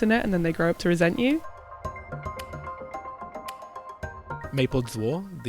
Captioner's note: voiceover